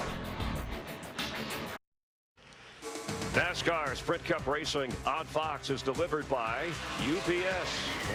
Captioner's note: tires screeching